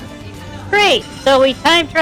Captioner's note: sarcastically